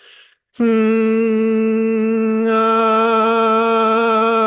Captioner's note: humming